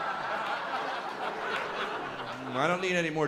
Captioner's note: laughter